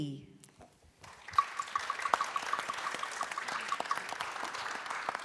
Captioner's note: audience clapping